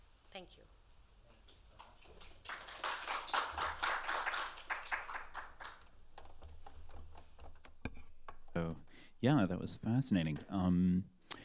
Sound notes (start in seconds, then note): 1.7 applause